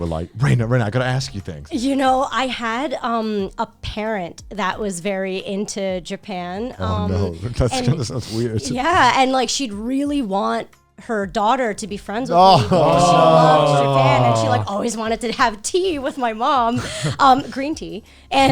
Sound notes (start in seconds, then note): 12.3 group groaning